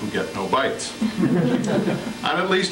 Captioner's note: laughter